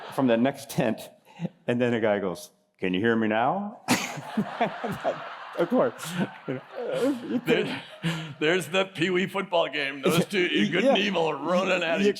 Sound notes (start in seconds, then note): 0.1 laughter; 3.8 laughter